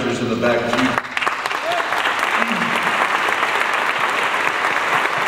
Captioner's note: audience applauds